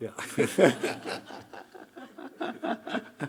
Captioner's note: laughing; Hiroshi laughing; audience laughing